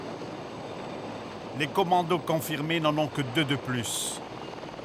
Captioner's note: French spoken audio